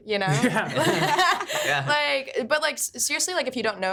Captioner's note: group laughing